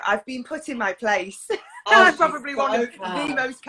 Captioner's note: laughs